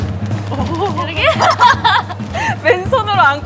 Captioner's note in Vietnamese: cười